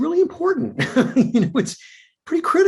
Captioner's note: chuckles